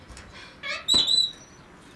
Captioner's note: kitty squawks